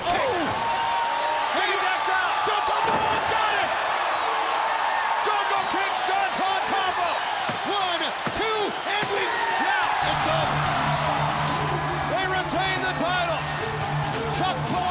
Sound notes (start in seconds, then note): 4.2 crowd cheering; 9.8 bell ringing; 10.5 crowd cheering